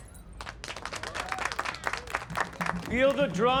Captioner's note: applause